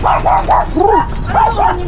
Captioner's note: coos